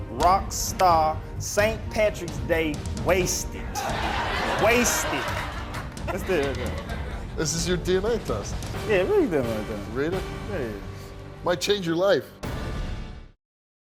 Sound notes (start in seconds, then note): 3.7 laughing